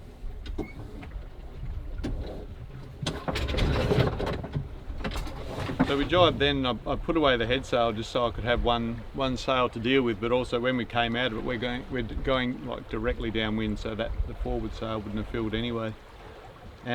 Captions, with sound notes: (sail rattling) So we jibed, then I've put away the head sail, just so I could have one sail to deal with. But also when we came out of it, we're going directly downwind, so the forward sail wouldn't have filled anyway.